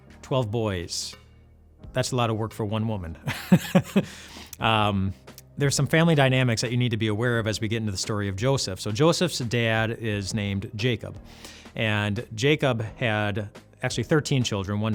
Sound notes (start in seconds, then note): 3.4 laughs